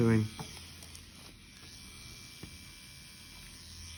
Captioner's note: machine whirring